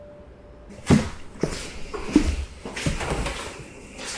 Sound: footsteps

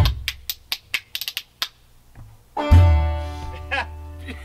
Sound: spoons tapping rhythmically; laughs

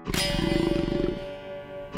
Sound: growling

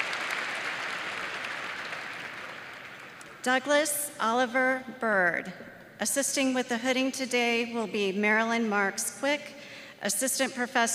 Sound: applause

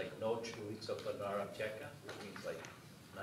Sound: speaking foreign language

